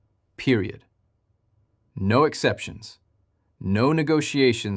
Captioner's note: pause